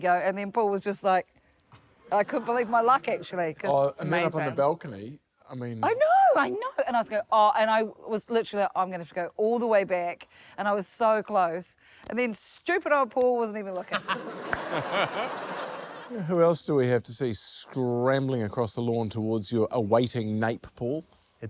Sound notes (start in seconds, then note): 13.7 laughter